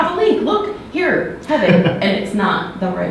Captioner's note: laughs